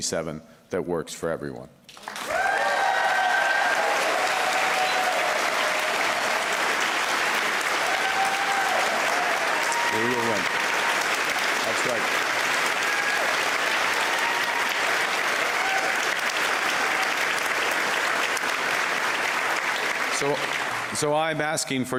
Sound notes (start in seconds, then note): 5.4 cheers and Applause